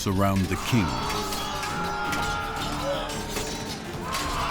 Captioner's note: screams